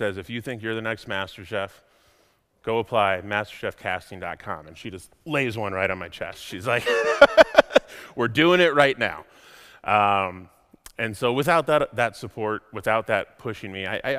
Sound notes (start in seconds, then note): 6.8 laughs